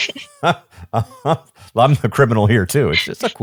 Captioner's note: chuckling